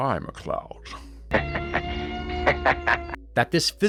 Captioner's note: laughter